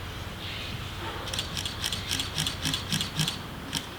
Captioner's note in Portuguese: som de captura da câmera